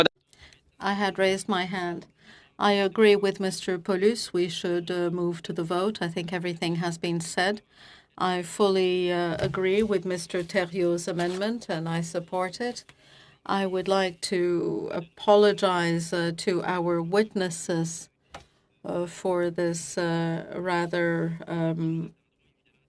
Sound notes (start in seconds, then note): 1.9 speaking FRENCH